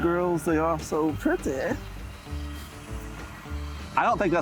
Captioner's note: crane hums